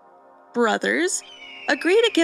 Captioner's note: very quiet eagle caw 🦅🤏